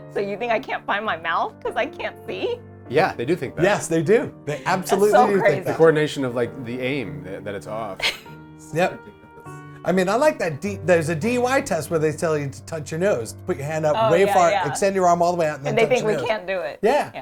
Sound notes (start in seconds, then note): 8.0 laughs